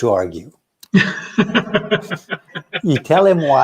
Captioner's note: laughs